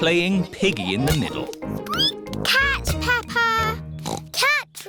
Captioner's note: squeaks; oinks